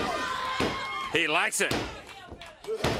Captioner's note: crowd cheering